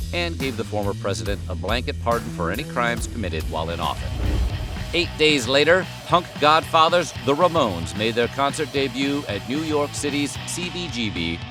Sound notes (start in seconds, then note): none